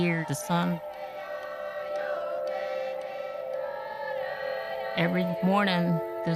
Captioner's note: chanting